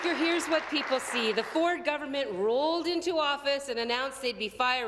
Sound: applause

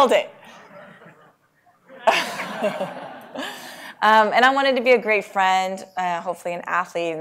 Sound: laugh

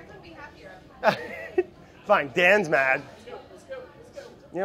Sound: laughs

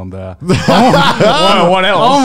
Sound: laughing loudly

